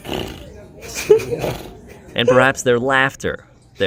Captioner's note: raspberrying; laughing